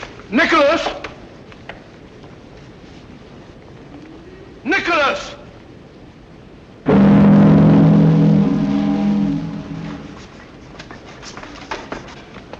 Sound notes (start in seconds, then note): 6.8 ships horn blowing